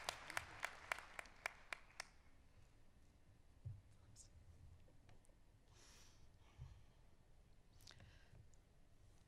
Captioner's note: applause